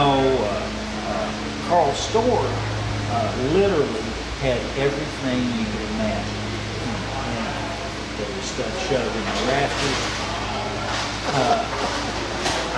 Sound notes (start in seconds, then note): none